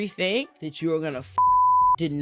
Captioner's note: beep